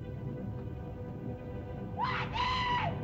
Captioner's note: Loana speaks in caveman language; volcano rumbles; screams